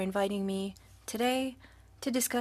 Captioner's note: speaking French